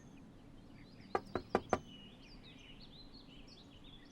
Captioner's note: knuckle taps